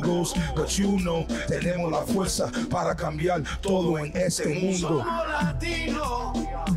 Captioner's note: speaks Spanish; speaks Spanish